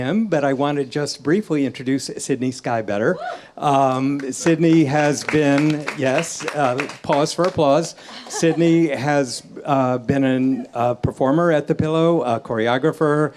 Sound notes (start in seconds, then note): 4.0 audience applauds; 4.1 audience cheers